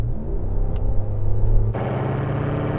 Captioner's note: engine revving